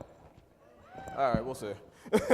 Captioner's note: audience cheering; laughing